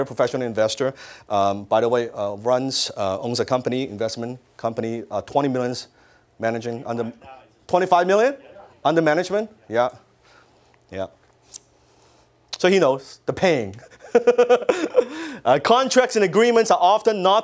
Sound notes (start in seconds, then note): 6.8 muffled yell; 13.8 laughs